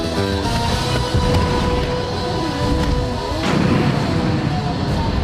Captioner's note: fire exploding